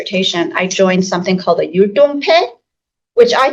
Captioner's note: speaking Mandarin